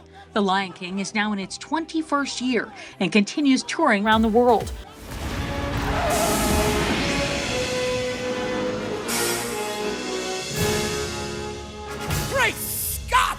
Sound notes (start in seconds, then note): 5.9 brakes screeching; 7.5 dramatic music